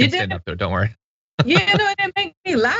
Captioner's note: laugh